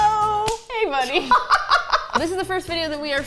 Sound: both laugh

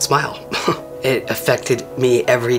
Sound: chuckles

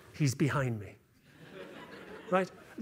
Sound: laughter

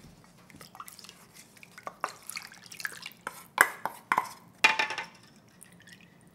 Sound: water pouring and utensils tapping

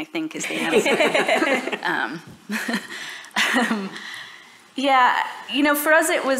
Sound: laughter

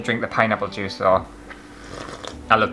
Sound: sipping

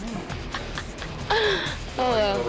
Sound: chuckles

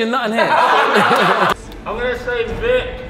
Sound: group laughs

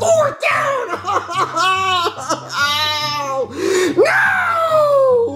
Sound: crying

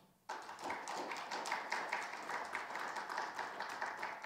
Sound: audience applauding

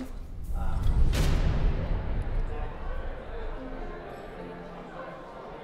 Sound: crowd murmuring

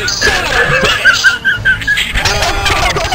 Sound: group laughter

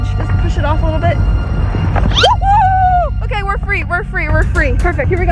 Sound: screams

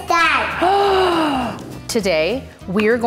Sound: gasps

